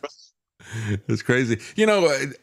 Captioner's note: laughs